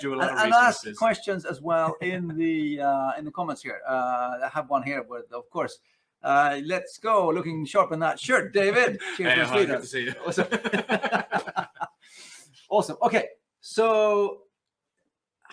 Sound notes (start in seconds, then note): 8.6 laughs